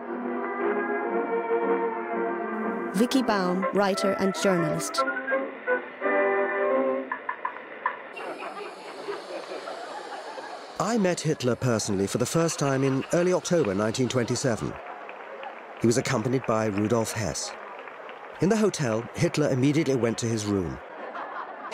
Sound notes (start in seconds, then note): 8.2 gas hissing